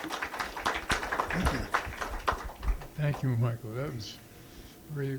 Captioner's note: applause